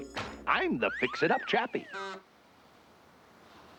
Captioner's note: horn honks